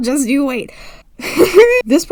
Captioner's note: Gremlin Chuckle